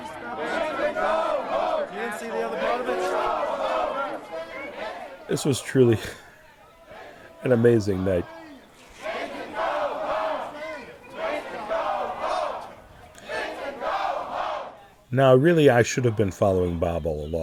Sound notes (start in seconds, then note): 0.0 crowd chanting; 8.2 crowd chanting